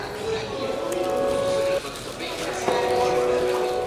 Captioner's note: crumpling paper